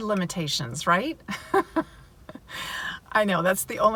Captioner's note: laughing